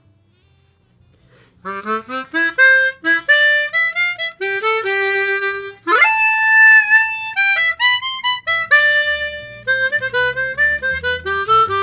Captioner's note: with vibrato